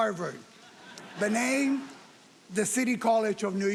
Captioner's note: audience laughing